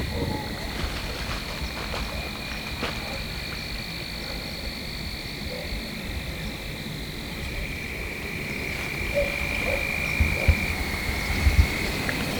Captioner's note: frogs / insects